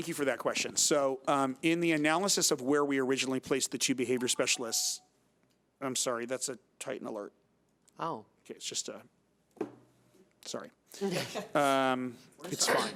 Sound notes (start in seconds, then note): 4.1 cellphone chiming; 11.0 chuckling